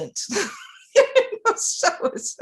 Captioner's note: laughs